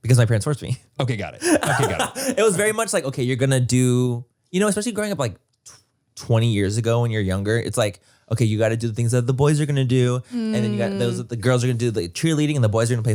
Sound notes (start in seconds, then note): 1.4 Manny laughs